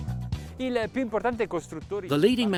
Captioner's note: speaks in foreign language